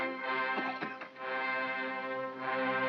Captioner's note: dramatic regal music; Stan coughs; dramatic regal music